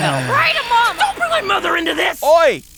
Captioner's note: heavy sigh